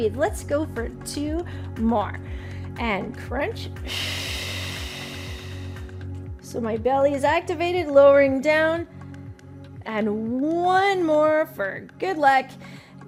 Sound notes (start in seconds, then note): 3.8 exhales sharply